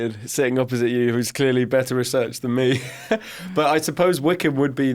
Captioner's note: snickers